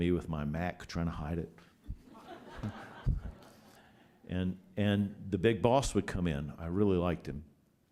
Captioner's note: laughter